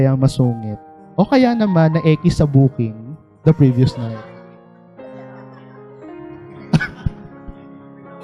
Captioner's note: laughter